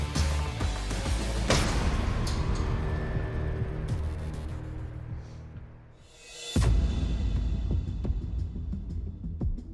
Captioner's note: blade impacts